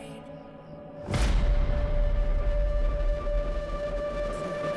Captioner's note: dramatic boom